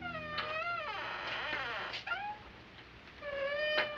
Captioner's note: door creaking